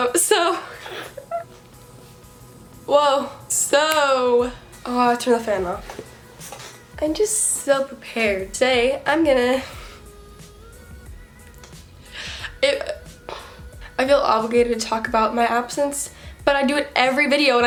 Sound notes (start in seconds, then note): 0.7 laughs